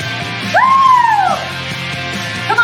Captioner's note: yelling